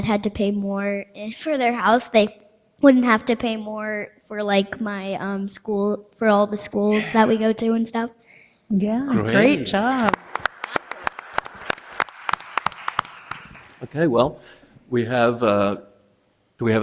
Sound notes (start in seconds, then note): 11.9 audience applauding